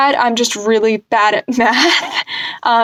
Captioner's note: laugh